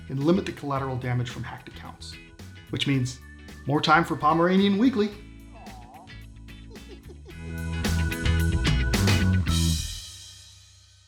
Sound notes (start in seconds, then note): 5.6 chuckles; 6.2 upbeat music